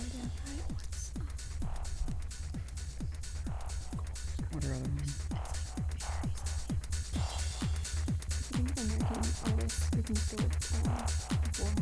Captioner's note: whispering